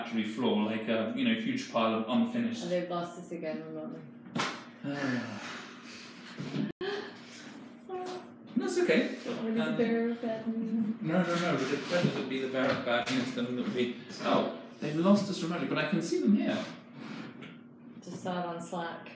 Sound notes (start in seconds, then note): 4.8 sighing